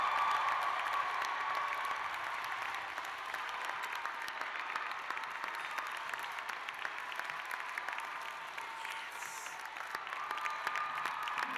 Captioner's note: cheers and applause